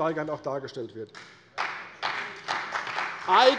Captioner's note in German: Beifall bei der CDU und dem BÜNDNIS 90/DIE GRÜNEN